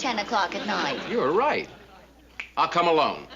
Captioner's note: snapping